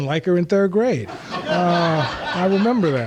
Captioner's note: laughter